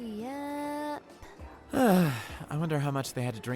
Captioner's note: sighs